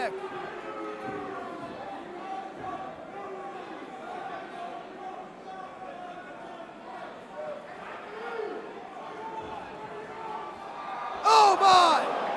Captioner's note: crowd chatter